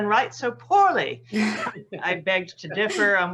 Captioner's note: laughs